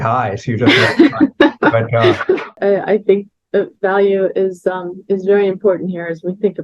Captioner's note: laughs